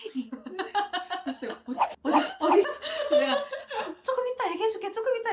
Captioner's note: laughter